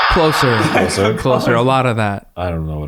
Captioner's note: laughs